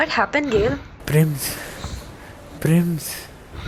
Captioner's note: heaving